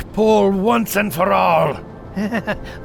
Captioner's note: nervously chuckling